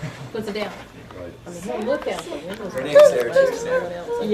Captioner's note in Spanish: Conversaciones de fondo